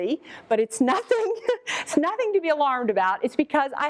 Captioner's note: laughs